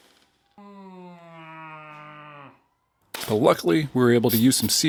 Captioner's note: paper crinkling; groaning